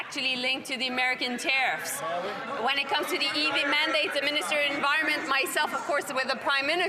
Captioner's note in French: voix de l'interprète